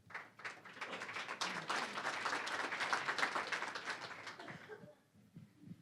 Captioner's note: applause